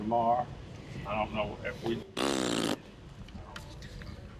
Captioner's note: blowing raspberry